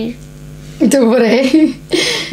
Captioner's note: laughing